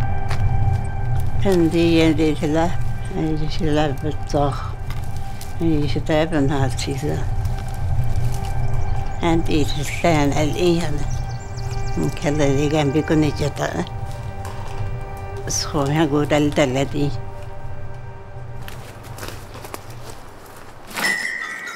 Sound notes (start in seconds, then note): 2.7 speaks other language: English translation on screen; 16.7 speaks other language: English translation on screen